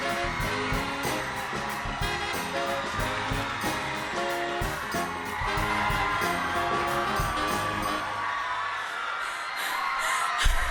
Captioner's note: cheers and applause